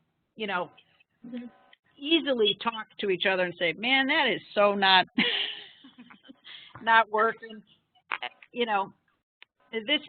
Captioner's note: laughing